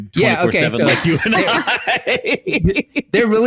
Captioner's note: studio laughs